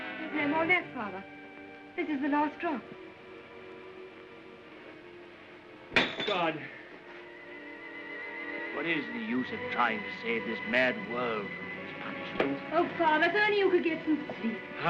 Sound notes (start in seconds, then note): 0.0 ominous music; 5.9 glass tube breaks